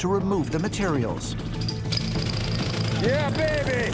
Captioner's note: jackhammer whirring